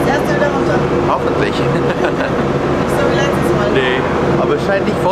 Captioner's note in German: Lachen